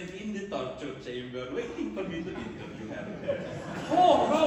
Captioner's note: laughter